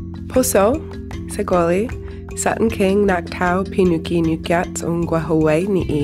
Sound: speaking in foreign language

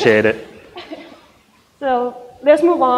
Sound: laughs

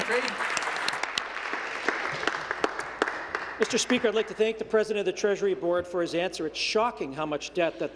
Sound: applause

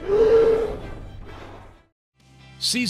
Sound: whale grunts

